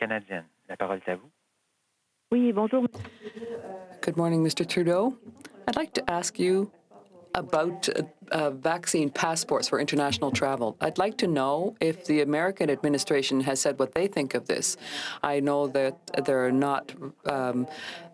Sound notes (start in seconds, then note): 4.1 speaking french